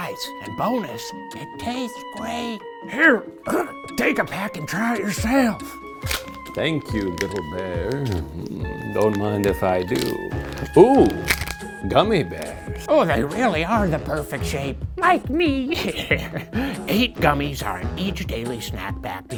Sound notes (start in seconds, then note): 3.2 groans; 5.9 pack crackles; 15.7 chuckles